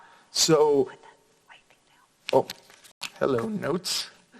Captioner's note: whispers